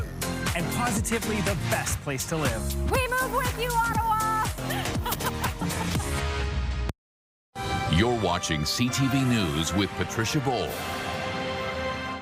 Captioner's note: laughter